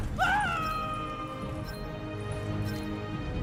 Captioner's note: screaming